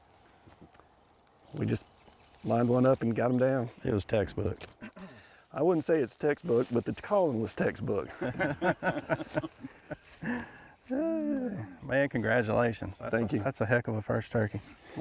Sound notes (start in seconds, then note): 8.0 all laughing